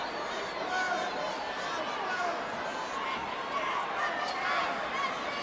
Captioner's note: audience chattering